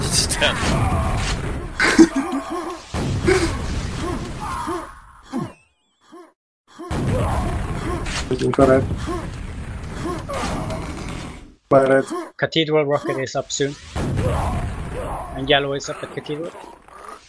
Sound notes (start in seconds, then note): 1.8 still laughing